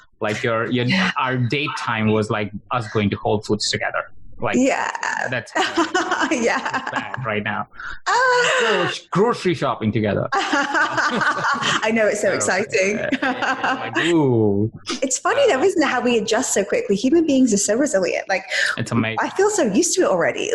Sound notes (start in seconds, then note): 5.0 laughs; 10.5 laughing